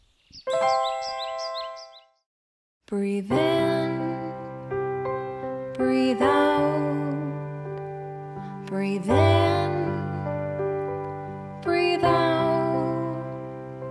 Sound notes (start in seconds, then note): 0.5 bells; 2.3 birds chirping